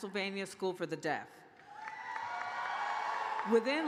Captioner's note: cheers and applause